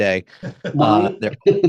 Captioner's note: laughs